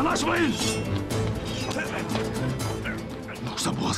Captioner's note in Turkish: Kılıç çekme sesleri